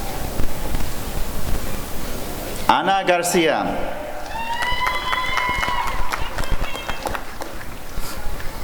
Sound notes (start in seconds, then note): 4.2 applause and cheering